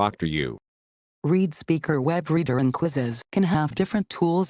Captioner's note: female Computer Voice